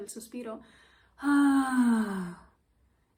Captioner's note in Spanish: suspiro